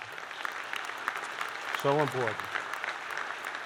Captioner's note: applause